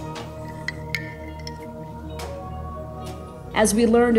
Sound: object clanking

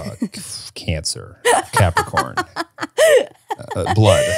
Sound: laughs

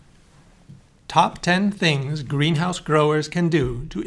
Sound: voiceover

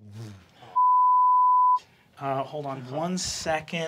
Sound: beep

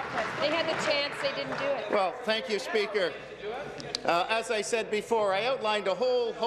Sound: applause

